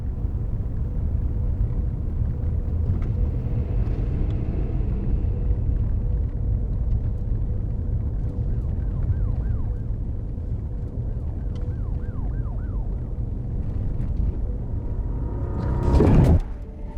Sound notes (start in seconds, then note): 0.2 car engine humming; 9.2 distant siren wailing; 14.0 buzzing frequency